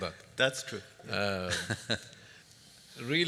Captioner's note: chuckles